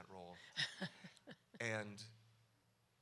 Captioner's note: laughs